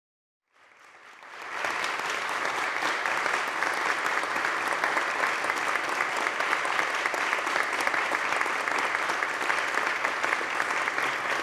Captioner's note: applause